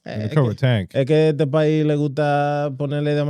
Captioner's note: speaking In Foreign Language